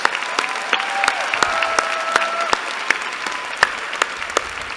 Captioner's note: applause